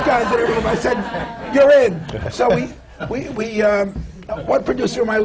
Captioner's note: laughter